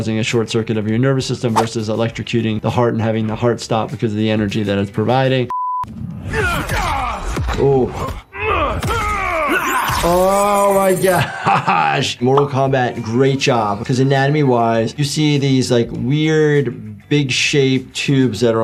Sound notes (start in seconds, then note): 6.3 Homelander and Omni-Man grunting; 8.0 grunting continues; 11.0 laughs